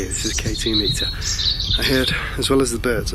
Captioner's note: birds chirping